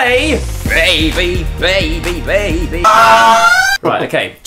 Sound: screaming

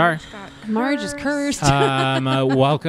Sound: laughs

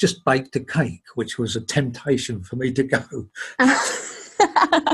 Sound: laughing; laughs

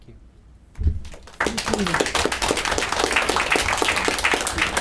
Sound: clapping

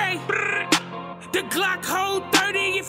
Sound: blrrrd!

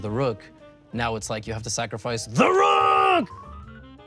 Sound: screams

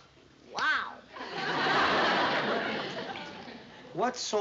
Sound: laughter

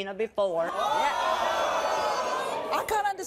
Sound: audience gasps

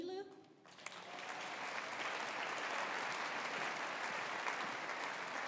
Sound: audience applauding

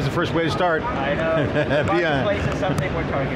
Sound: laughs

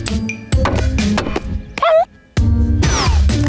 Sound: whimpering

